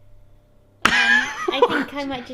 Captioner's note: laughing